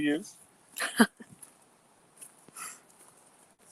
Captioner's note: chuckles